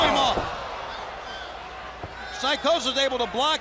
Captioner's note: crowd chatter